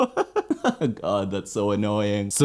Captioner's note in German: lacht